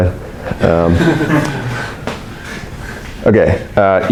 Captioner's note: audience laughs